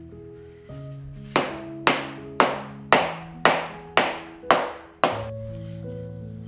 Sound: rolling pin smacks dough

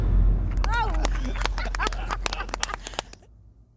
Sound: applause

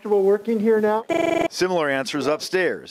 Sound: sans undertale noises

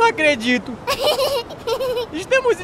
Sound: laugh

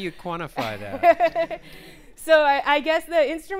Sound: laughing

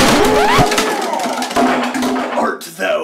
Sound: explosion

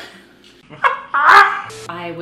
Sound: both laughing

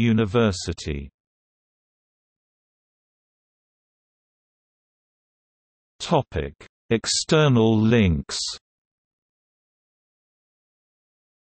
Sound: in Turkish

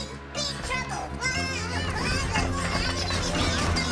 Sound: Bongolalas shouting

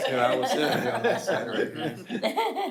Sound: people laughing

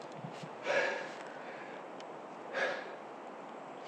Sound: sighing

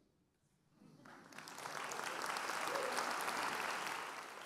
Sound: applause

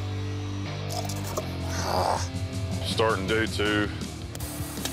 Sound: groans

